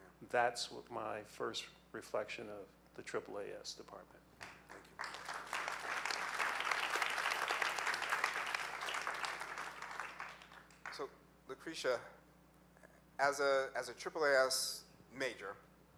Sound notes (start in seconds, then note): 4.4 audience clapping